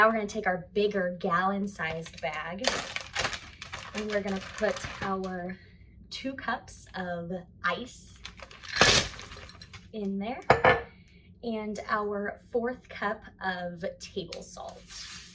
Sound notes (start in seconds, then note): 8.8 ice thuds; 15.1 salt swooshes